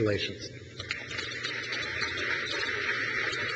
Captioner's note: crowd claps